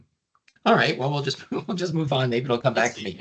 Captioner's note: chuckling